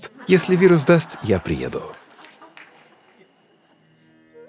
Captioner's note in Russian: Cмех